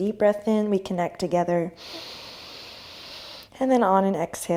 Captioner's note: deep inhale